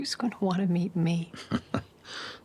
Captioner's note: Christopher chuckles